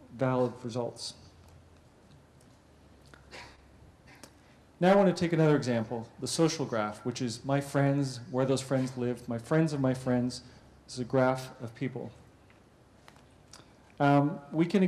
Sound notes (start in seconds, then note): 1.6 pause